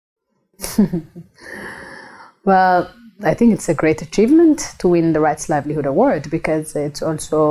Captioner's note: laughs